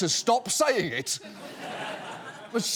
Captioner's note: audience laughing